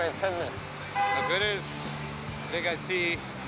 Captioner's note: car horn honks